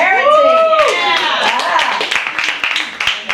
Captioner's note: crowd